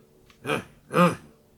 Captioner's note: grunts